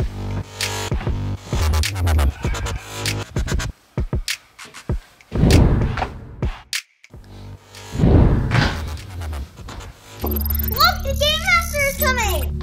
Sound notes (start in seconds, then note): 5.4 poof!; 8.0 poof!